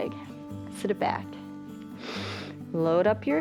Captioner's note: inhales